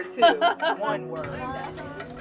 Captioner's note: laughter